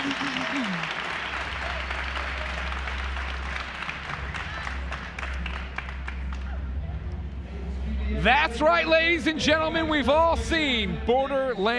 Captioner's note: cheers and applause